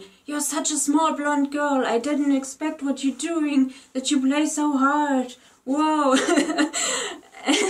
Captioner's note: laughs